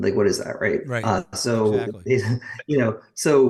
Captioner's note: chuckles